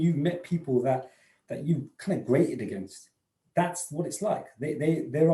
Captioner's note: murmurs